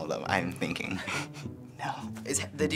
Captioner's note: snickers